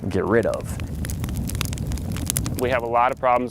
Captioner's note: fire crackling